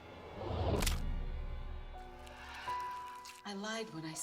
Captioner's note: thudding